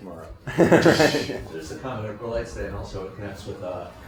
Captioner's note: laughter